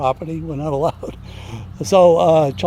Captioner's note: laughs